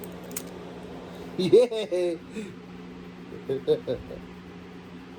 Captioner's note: Ella giggles